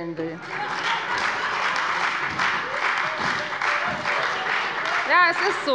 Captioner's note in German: Heiterkeit und Beifall bei der FDP und der SPD